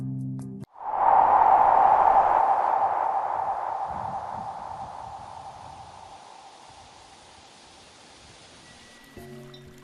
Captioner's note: wind ambience; flowing water